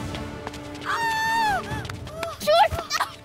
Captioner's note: Screaming